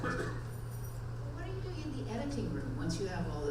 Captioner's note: voiceover